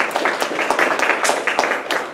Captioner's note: applause